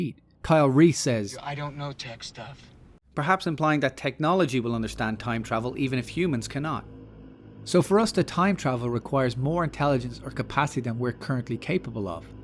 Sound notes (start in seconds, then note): none